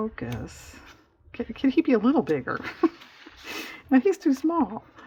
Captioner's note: laughs